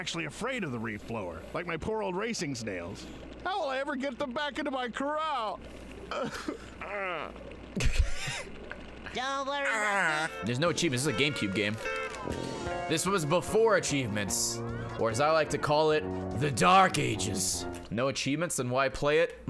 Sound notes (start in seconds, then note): 6.0 laughs; 6.1 cries